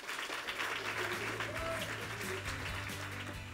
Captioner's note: applause